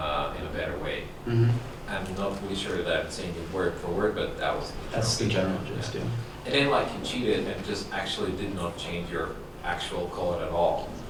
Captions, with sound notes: in a better way." I am not sure that is saying it word for word, but the-- - that is the general gist. - [Voiceover] And then, like you cheated and just actually did not change your actual code at all.